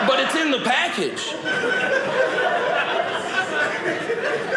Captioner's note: audience laughing